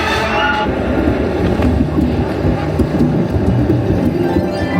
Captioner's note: thunder rumbling